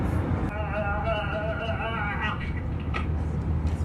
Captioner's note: retching over plane's PA system